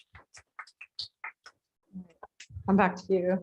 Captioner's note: applause